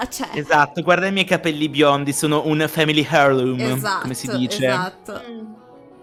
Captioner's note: agreeing